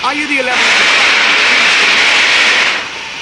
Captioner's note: steam hissing loudly